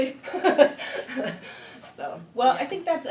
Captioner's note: laughing